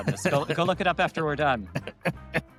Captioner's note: laughs